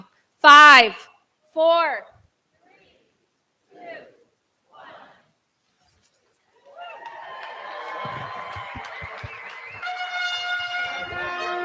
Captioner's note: applause